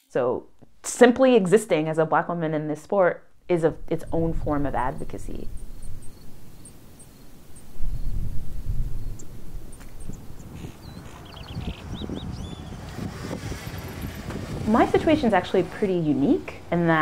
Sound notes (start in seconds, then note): 6.0 birds tweeting; 11.2 wind rumbling